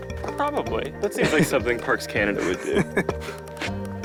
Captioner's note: laughing